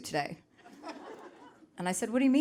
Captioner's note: audience laughing